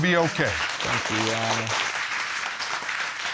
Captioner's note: audience clapping